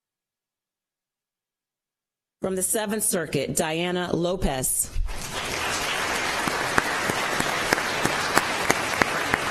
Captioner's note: applause